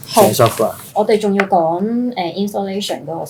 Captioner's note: Cantonese